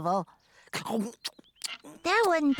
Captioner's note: chomp, Chomp, Chomp